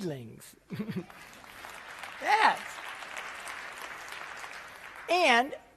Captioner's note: applause